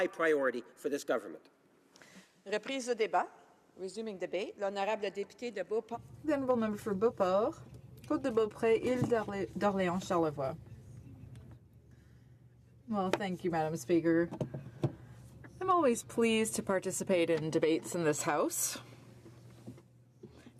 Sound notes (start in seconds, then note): 9.0 speaking French; 14.4 speaking Alternate Language